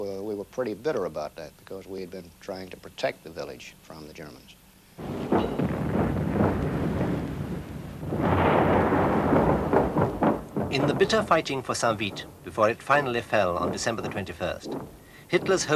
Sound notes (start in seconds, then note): 5.5 mortars exploding